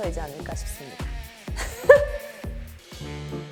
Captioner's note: laughs